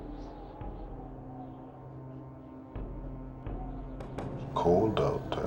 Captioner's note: wind blowing